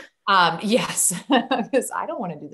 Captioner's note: laughs